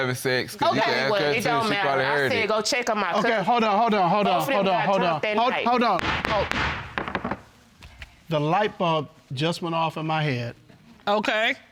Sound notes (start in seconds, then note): 5.9 gavel banging